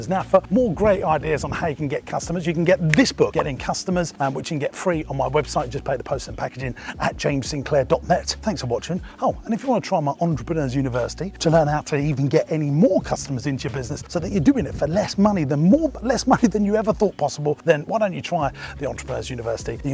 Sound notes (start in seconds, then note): 2.8 popping sound; 2.8 fingers click